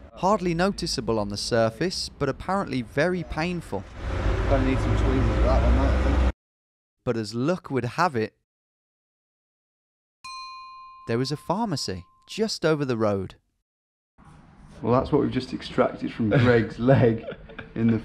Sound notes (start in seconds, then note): 10.2 bell dinging